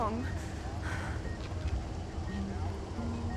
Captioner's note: monitor beeping